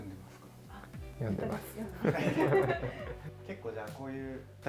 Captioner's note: laughs